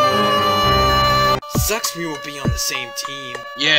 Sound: Popsicle Stick's "NOOO" continues in background

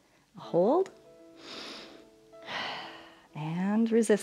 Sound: inhales and exhales

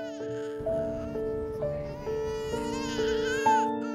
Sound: baby crying

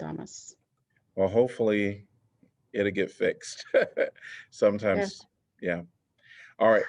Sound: laughter

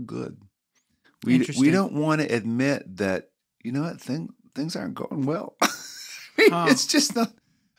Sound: chuckle

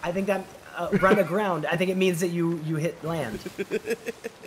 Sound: laugh

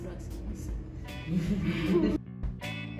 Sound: laughs

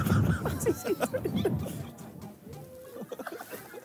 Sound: laughing

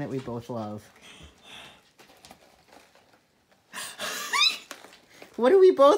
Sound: big sigh, then happy squealy laughter

